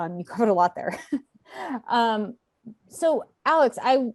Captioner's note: laughing